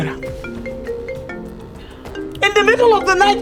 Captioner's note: phone ringing